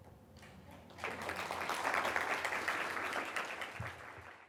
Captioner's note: audience applauding